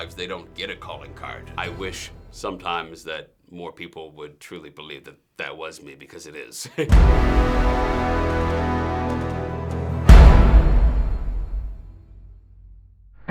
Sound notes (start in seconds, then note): 6.6 chuckles; 6.9 dramatic music